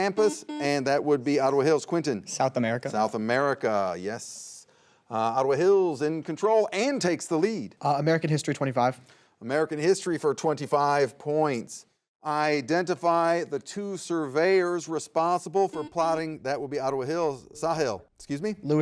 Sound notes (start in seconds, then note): 0.1 buzzer beeps; 15.7 buzzer beeps